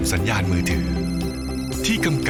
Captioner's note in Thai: เสียงโทรศัพท์